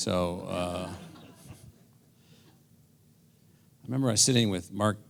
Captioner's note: laugh